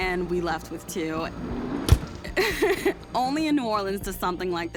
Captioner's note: laughs